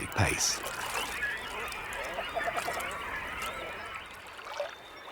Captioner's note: birds singing; water sloshes